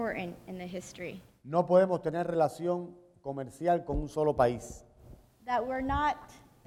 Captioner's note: speaking in Spanish